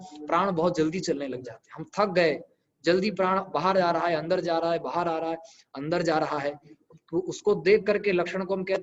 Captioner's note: breath